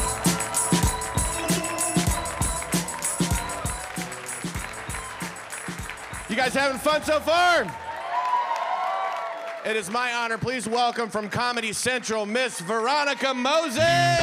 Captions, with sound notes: - You guys having fun so far? (audience clapping) It is my honor, please welcome from Comedy Central, Miss Veronica Mosey.